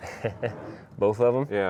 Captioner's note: laughs